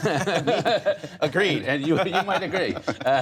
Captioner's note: laughter